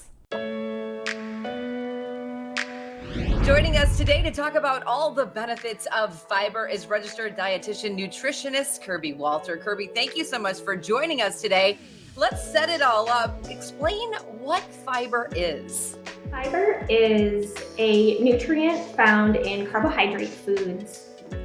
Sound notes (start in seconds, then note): 0.2 upbeat music; 3.0 air swooshing